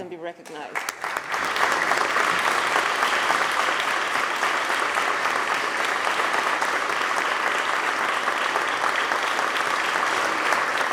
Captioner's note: applause